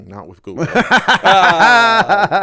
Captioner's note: laughter